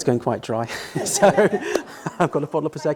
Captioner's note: laughs